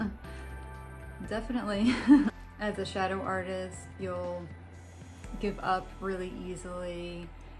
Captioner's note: laughs